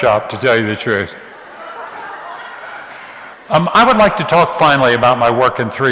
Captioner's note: audience laughs